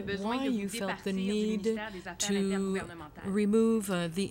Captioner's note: speaking french